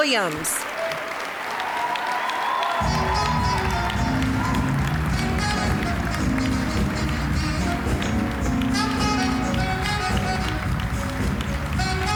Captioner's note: cheering, applause; smooth jazz music